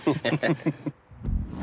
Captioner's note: laughing